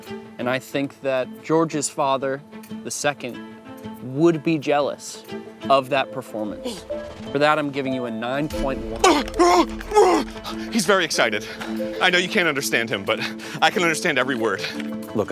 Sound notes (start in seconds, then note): 8.7 unhinged blustering of excitement